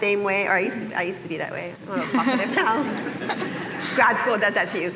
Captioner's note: laughter